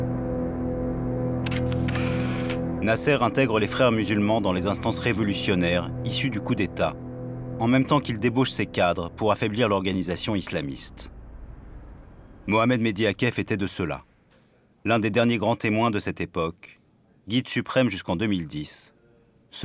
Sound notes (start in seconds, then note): 1.4 camera click